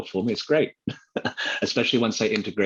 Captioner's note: laughs